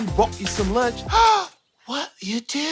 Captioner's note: gasps